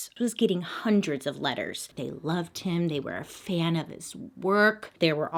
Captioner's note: none